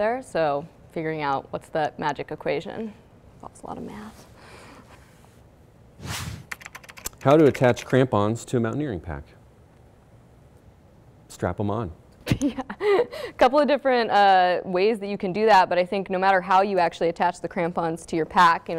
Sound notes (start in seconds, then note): 6.0 air whooshing; 6.5 keyboard clicking; 12.9 laughs